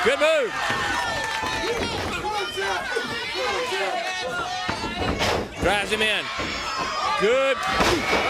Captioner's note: crowd cheering